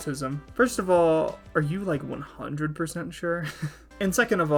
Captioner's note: laughing